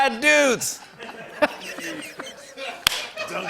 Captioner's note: laughs